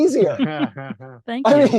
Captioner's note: laughing